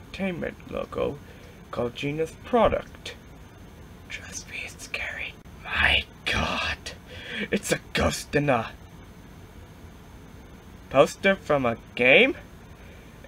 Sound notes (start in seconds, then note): 3.9 whispers